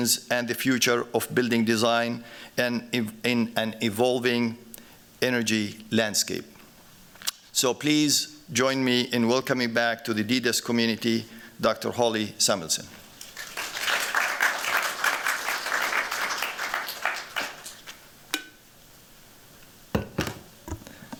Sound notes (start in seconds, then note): 13.2 applause